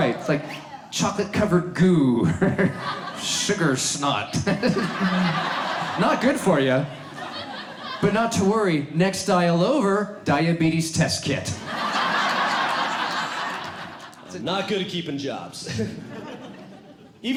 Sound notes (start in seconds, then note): 4.6 audience laughs; 11.5 audience laughs